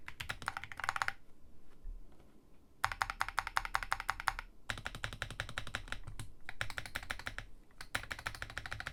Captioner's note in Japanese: 打鍵音チェック中